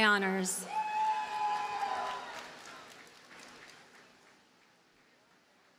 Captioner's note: audience cheers and applauds